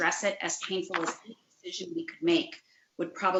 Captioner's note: distorted sound